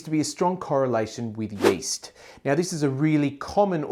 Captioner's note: air whooshes